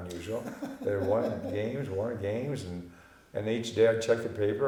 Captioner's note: laughing